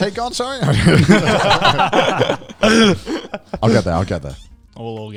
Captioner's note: all laughing loudly